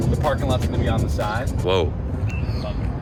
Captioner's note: thunder